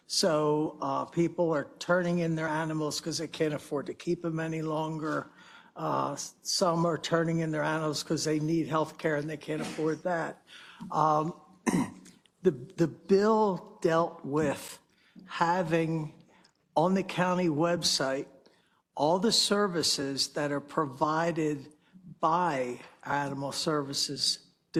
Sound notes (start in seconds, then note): 11.6 cough